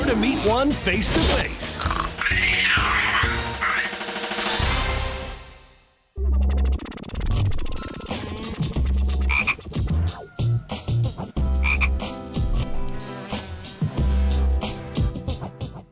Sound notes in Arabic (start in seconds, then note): 1.8 قرد يئن; 6.0 موسيقى خفيفة; 9.4 نعيق الضفدع; 13.2 يطن حشرة